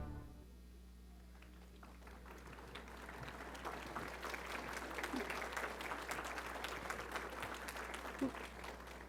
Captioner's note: applause